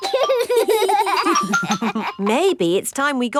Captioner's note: giggling